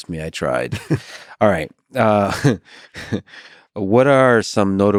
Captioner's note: chuckles